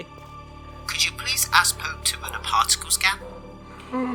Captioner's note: Thomas on radio